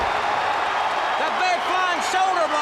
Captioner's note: crowd cheering